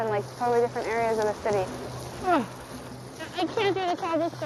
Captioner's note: grunts